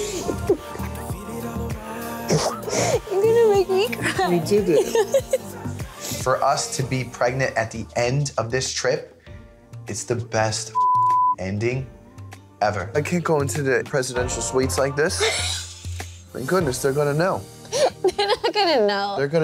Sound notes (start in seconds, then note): 0.1 calm music; 10.7 beep